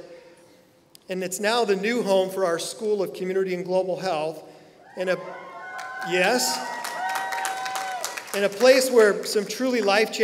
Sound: applause

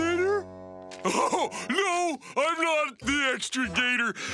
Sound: laughing

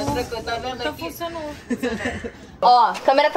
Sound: chuckles

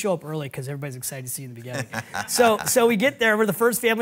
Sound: laughs

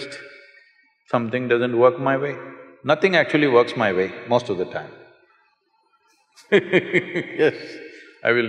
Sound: laughs

